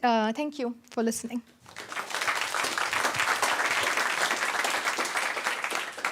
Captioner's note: applause